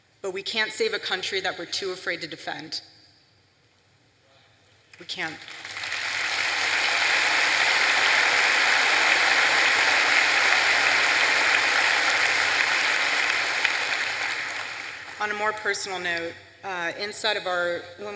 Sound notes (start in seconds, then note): 5.2 applause